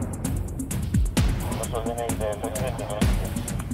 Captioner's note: police radio